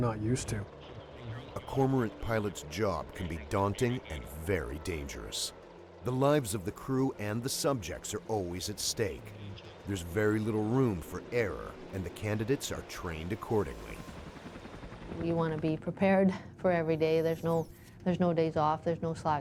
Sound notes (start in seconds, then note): 10.9 voiceover